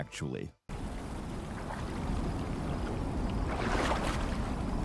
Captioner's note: water splashing